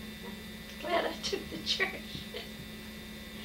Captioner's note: laughs